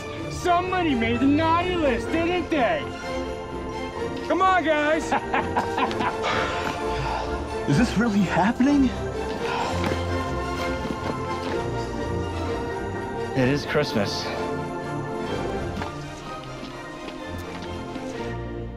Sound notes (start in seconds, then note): 4.9 laughs; 5.9 playful music; 9.3 playful music